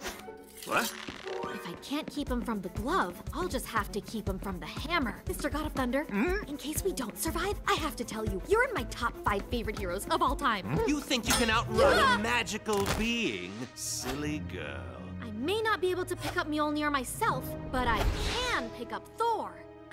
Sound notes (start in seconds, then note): 6.1 Thor grunts; 10.6 questioning grunt